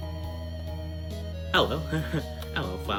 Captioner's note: chuckle